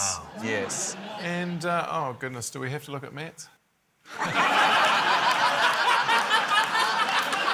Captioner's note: laughter